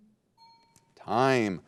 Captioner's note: bell dinging